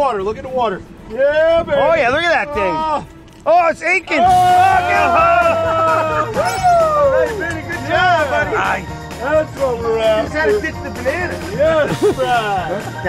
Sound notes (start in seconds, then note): 4.3 all shout